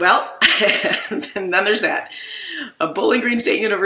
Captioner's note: laughs